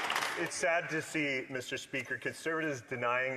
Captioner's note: some Applause